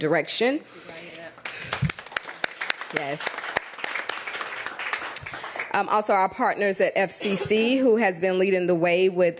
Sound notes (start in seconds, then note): 1.4 applause